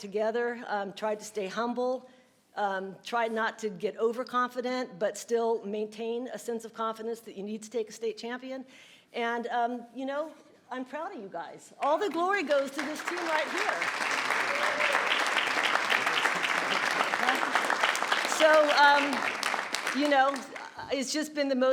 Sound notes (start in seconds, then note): 13.1 audience clapping